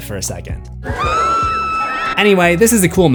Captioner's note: screams